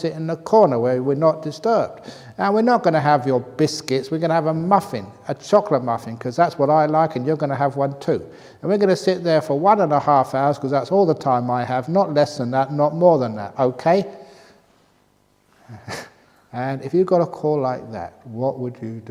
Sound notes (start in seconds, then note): 15.7 laughs